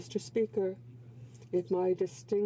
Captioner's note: speaking in french